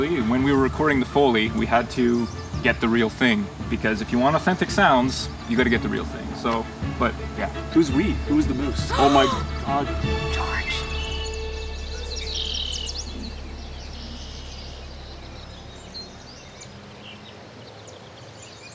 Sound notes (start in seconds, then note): 8.9 gasp; 12.9 nature sounds